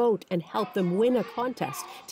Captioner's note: speaking russian